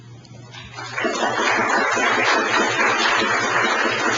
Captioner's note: audience applauding